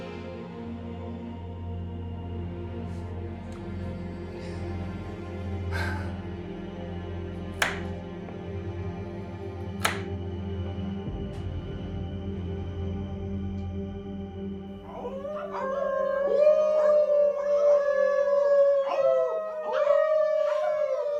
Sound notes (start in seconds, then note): 0.2 melancholy music; 5.7 Angela exhales; 7.2 melancholy music; 9.8 knife thuds; 14.7 all howling